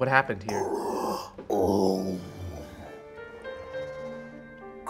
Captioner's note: growls